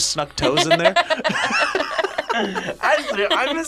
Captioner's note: both laugh